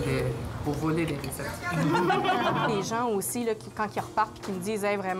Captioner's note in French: rires